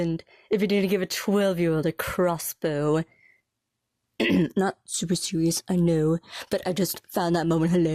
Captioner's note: clears throat